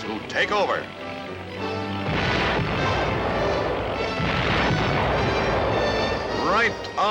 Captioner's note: music, explosions